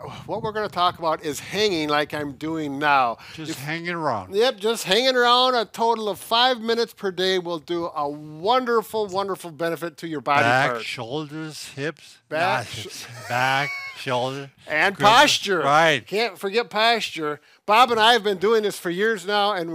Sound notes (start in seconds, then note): 12.4 laughs